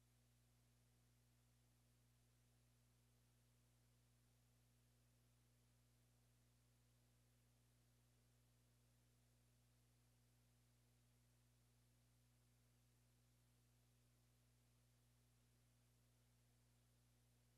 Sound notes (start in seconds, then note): none